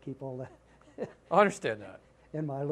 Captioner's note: laughter